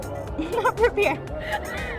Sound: laughs

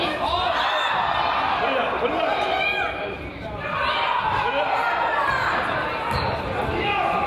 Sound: crowd yells

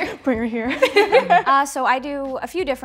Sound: laughing

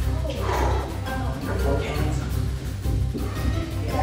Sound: sighing

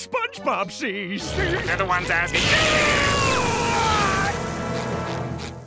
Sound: screaming

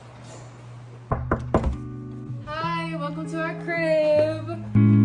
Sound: knocking

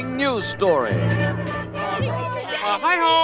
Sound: chatter

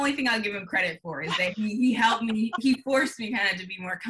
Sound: laughing

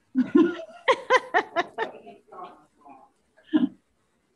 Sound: laughing

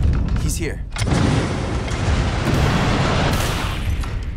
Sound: guns firing; high pitch frequency resonating

